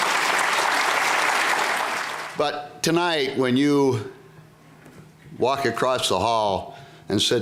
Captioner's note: applause